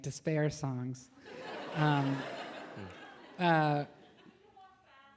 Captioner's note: applause